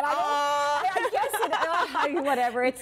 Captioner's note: laughter